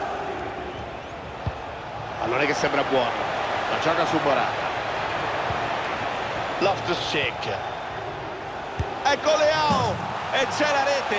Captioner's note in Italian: Applauso